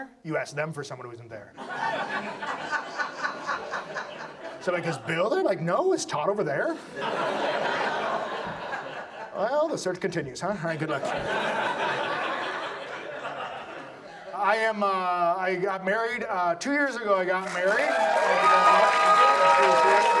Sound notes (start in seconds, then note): 4.4 audience laughs; 9.4 audience laughs; 14.4 audience laughs